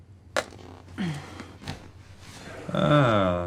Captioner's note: scoffs